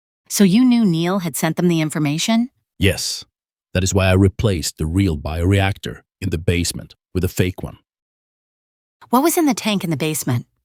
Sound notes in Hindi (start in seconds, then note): none